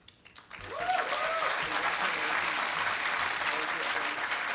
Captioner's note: applause